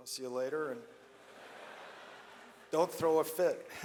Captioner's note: audience laughs